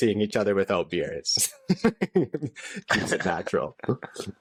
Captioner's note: laughter